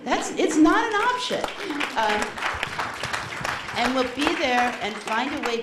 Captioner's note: applause